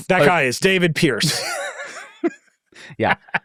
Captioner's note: people laughing